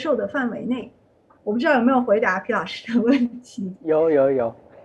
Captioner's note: laughs